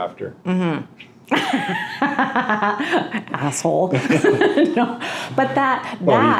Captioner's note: laughing